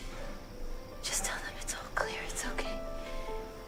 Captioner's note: whispering